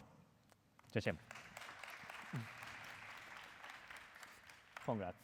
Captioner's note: applause